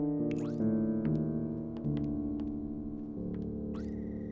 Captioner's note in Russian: шаги